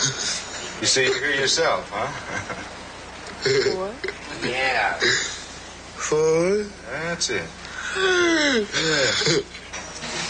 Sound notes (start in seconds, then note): 3.3 laughs; 7.9 laughs